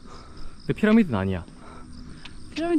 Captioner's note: adamant